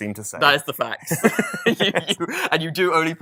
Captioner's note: both laughing